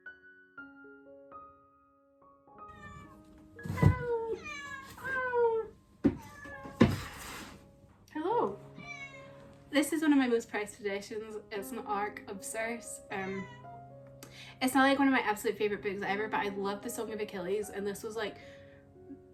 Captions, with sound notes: [cat meowing] [me meowing back] Hello this is one of my most prized posessions it's an ARC of Circe it's not like one of my absolute favorite books ever but I love The Song of Achilles and this was like